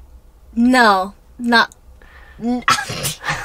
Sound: laughs

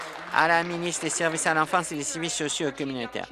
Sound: applause

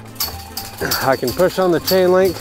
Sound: fence clanking

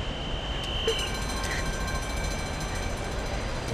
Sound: whistle; bell

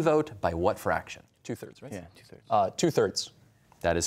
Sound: quietly

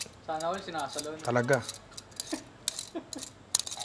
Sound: laughs

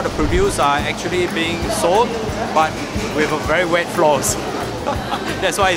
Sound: laughs

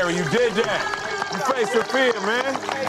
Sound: contestants cheering; contestants clapping

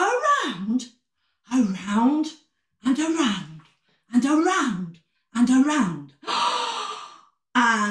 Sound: gasp

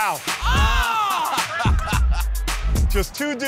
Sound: laughs

